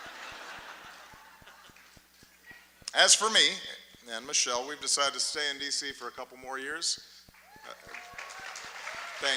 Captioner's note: laughter, applause; laughter; applause